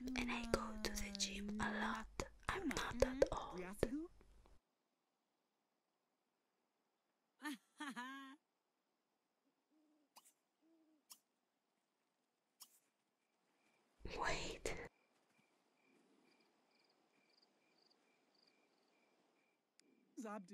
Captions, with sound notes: And I go to the gym a lot, I'm not that old... *awkward silence again* Wait!